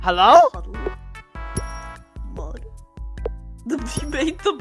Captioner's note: mumbling to herself